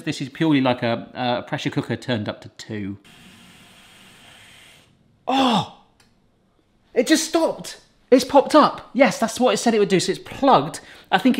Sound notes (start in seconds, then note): 3.0 Instant Pot whirring